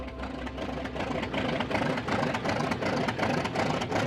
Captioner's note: sputtering airplane engine